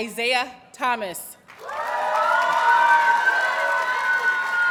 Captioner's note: audience cheers and applauds